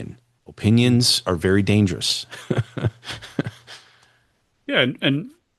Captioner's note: laughter